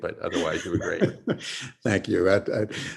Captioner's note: laughs